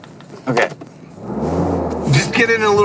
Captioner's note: engine revving